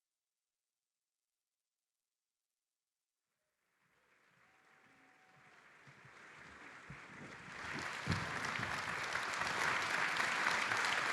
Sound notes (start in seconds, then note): 5.9 audience applauding